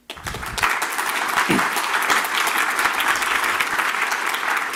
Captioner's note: audience applauding